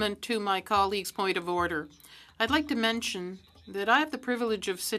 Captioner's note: speaking French